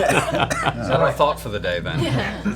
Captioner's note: laughter